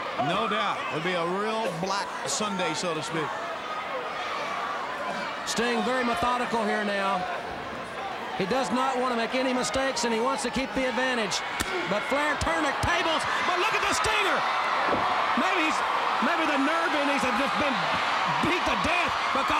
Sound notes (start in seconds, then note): 3.8 crowd cheering; 11.7 chop striking